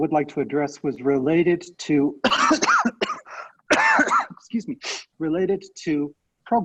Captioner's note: coughing